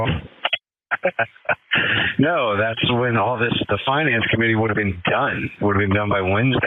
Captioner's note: laugh